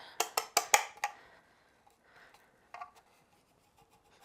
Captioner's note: hand tapping